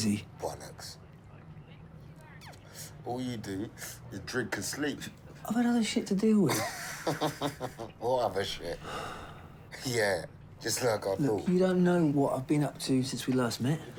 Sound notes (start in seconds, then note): 6.5 laughs; 8.8 Malcolm sighs